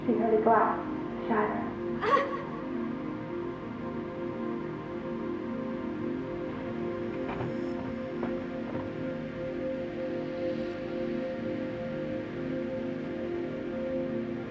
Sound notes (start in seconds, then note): 2.0 daughter gasps